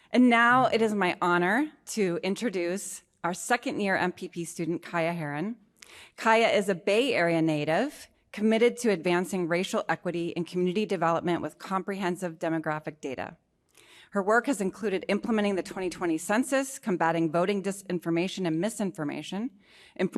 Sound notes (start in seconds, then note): none